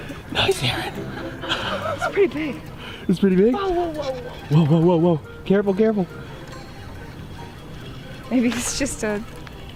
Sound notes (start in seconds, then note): 1.0 both laughing